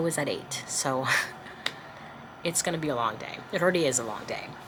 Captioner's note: palms clapping